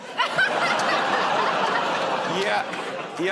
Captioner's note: laughter